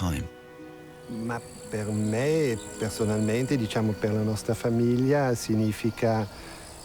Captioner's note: speaks in foreign language